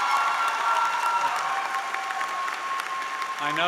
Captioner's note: applause